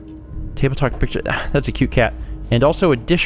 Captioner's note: sigh